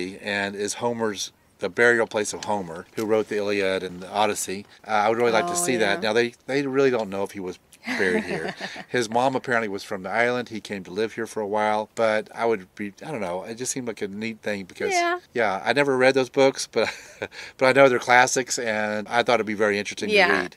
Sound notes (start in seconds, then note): 7.8 chuckles; 16.8 chuckles